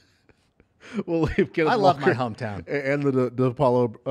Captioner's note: laughter